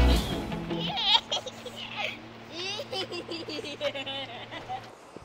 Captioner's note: giggles